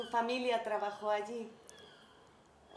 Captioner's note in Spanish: Sonido de gaviota